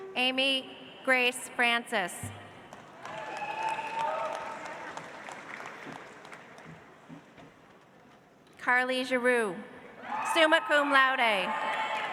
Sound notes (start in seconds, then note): 2.8 audience applauds; 11.7 audience applauds